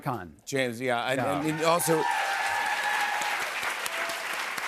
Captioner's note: cheers and applause